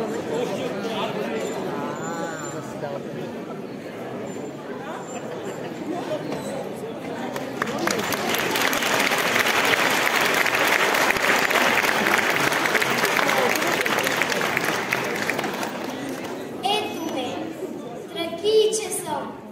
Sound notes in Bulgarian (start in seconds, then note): 12.5 аплодисменти